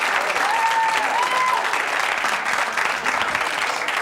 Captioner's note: audience cheers